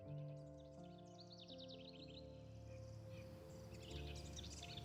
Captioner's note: birds chirping